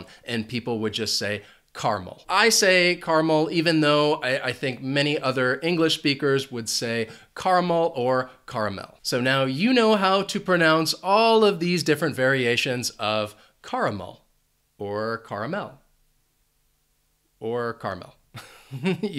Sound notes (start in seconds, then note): 18.3 chuckles